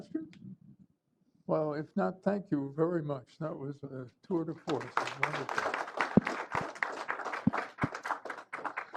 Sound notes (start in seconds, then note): 2.0 applause